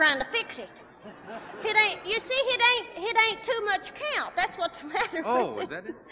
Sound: laughing

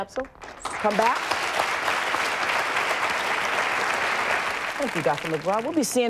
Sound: audience applauding

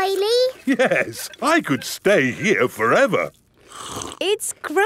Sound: slurps

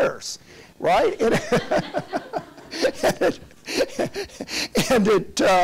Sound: everyone laughs

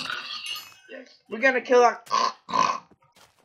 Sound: pig noise

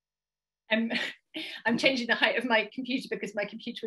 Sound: laughs

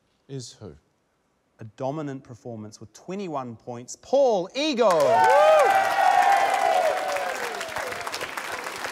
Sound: cheering, applause

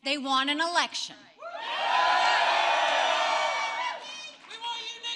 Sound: applause

